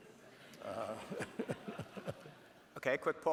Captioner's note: Ray and audience laughing